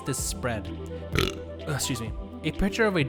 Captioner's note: burpy Interruption